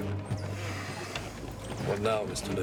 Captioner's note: car creaks